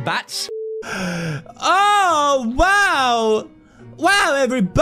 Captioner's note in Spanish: jadeó